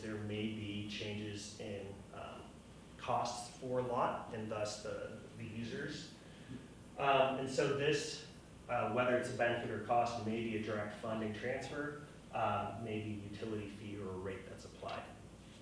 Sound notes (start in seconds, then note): none